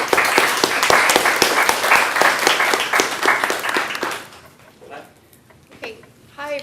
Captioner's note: applause